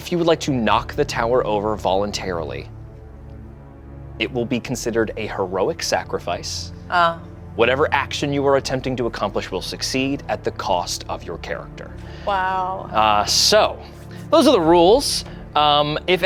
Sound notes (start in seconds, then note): none